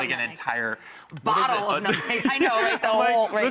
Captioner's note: laughter